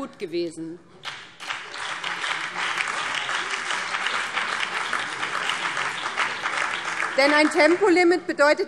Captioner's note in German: Beifall BÜNDNIS 90/DIE GRÜNEN und DIE LINKE